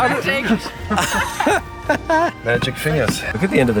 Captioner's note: all laughing